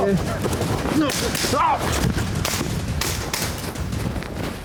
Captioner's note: gunshots